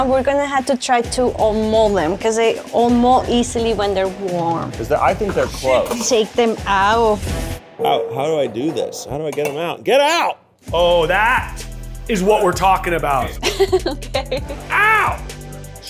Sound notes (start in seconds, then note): 13.2 laughs